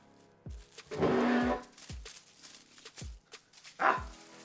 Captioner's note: chair groaning